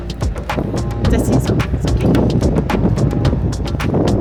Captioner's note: speaking German